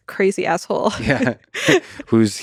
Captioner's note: both chuckling